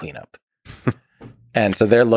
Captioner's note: Lex laughs